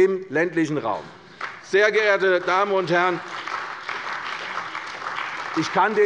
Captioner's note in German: Beifall bei der CDU und dem BÜNDNIS 90/DIE GRÜNEN